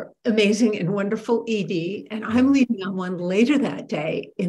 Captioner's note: laughs